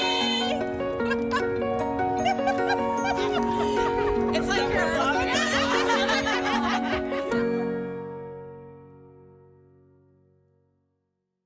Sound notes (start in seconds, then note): 0.1 gentle music; 0.1 laughing; 5.6 gentle music; 5.6 laughing